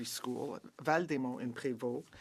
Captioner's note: speaking French